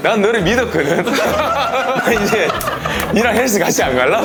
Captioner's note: hahahahahaha